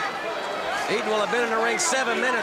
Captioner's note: crowd chatter